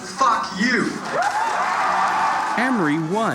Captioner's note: cheering